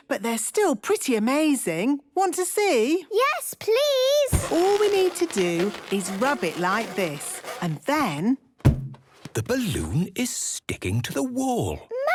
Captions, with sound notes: But they're still pretty amazing. Want to see? - Yes, please! - (balloon rubbing) - All we need to do is rub it like this... And then... - (balloon echoes) - The balloon is sticking to the wall!